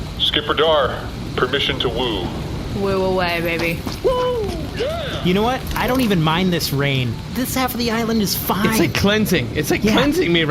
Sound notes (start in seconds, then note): 4.3 shouting